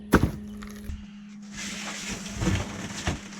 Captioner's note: thud